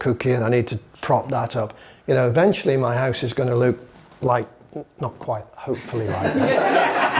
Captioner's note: laughter